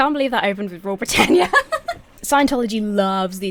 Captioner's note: laughs